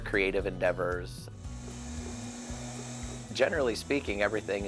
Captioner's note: wheel whirling